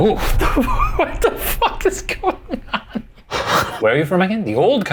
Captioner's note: laughing